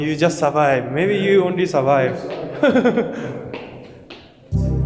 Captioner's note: laughs